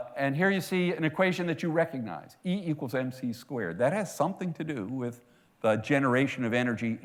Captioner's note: none